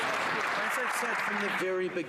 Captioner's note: some Applause